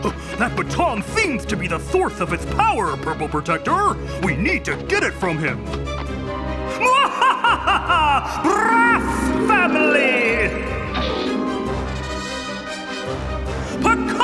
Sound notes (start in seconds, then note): 6.6 evil laughing; 11.1 dramatic music